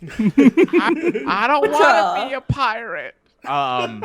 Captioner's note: laughing